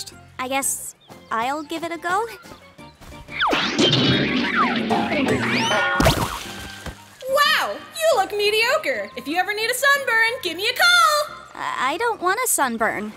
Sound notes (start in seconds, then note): 3.2 doink!; 3.3 bonk!; 3.4 poink!; 3.4 boink!